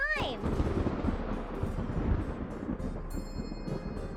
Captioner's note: thunder bolt smashing and rumbling sounds